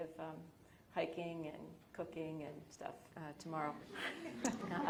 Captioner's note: audience laughing